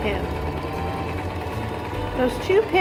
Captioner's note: whirring